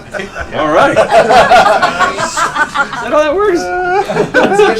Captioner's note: laughter